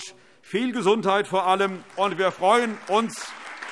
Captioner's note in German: Allgemeiner Beifall